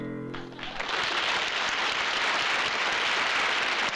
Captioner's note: applause